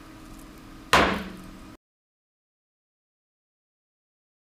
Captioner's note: gavel bangs